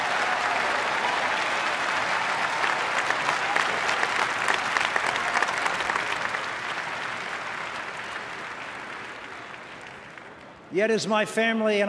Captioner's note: applause